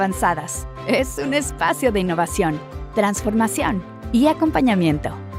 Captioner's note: announcer speaking Spanish